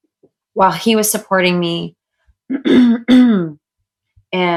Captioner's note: clears throat